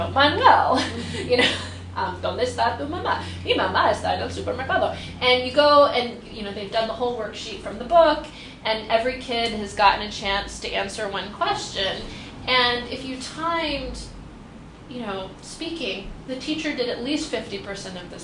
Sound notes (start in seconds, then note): 0.6 speaks spanish; 0.7 laughs